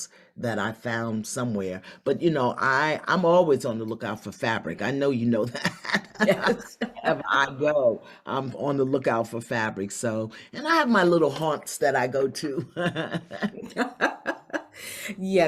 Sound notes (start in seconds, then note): 5.6 both laugh; 12.7 both laugh